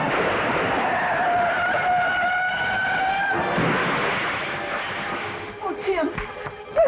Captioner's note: tires screeching